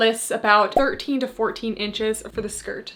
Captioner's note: graphics beeping